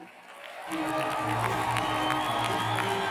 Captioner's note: cheers and applause